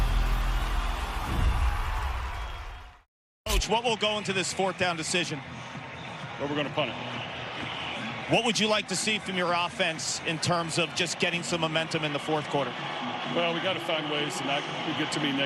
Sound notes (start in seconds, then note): 2.5 whoosh